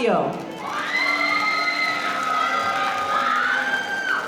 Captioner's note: audience applauding